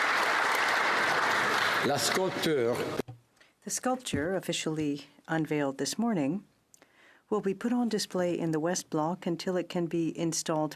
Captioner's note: applause